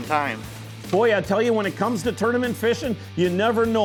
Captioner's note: voiceover